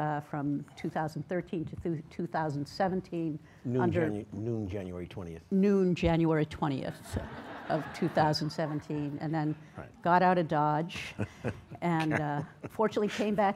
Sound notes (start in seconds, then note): 6.9 laughs